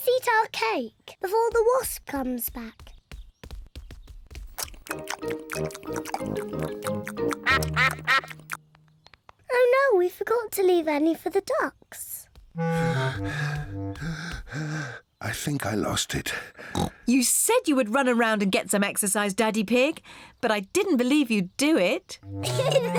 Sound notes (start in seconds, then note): 4.5 all munching; 8.2 ducks quack; 16.6 snorts